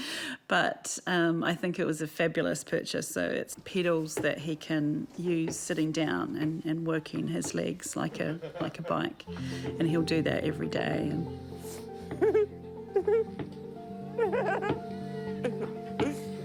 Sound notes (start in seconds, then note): 12.0 laughs